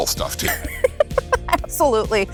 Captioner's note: laughs